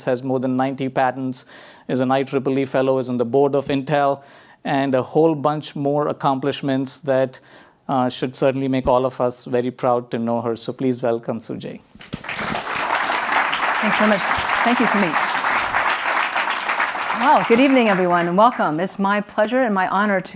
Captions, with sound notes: has more than 90 patents as a nitro belief fellow, is on the board of Intel and a whole bunch more accomplishments that should certainly make all of us very proud to know her. So, please, welcome Tsu-Jae. (audience applauds) - Thanks so much, thank you, Sumit. Well, good evening everyone and welcome, it's my pleasure and my honor